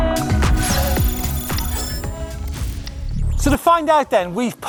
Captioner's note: electronic buzzing